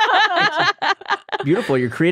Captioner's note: all laughing